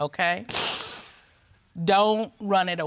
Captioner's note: sniffles